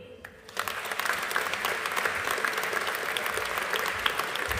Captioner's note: audience applauding